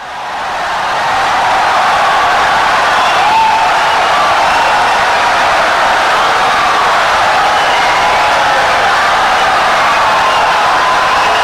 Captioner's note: wild applause and cheering for 17 seconds